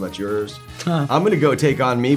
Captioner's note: Ralph mumbles